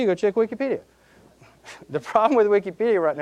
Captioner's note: chuckling